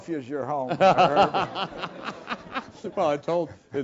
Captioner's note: laugh